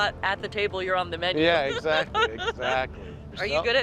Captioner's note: laughing